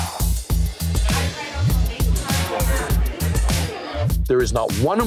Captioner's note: chatter